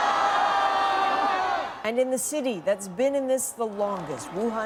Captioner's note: crowd noise